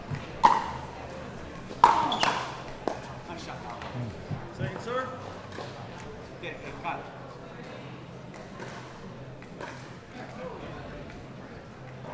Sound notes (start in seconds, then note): 0.1 ball clacking; 5.7 crowd talking